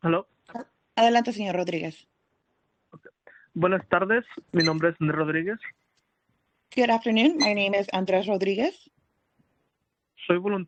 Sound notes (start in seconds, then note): 3.7 speaking Spanish